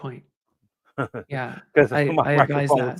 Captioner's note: chuckles